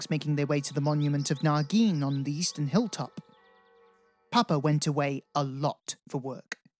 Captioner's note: bells